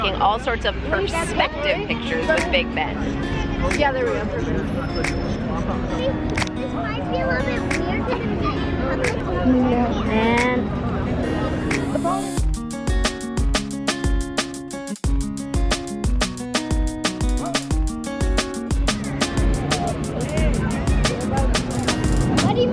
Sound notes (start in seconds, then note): 4.7 bright instrumental music; 5.0 crowd bustling; 8.8 bright instrumental music; 12.8 upbeat instrumental music; 19.2 upbeat instrumental music